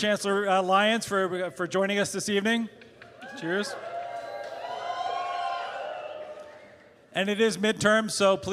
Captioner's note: cheers; applause